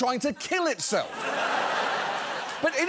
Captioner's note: studio audience laughing